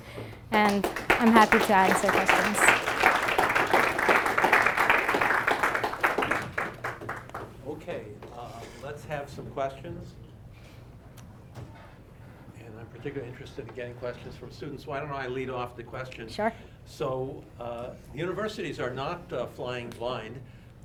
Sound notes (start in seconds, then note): 2.6 applause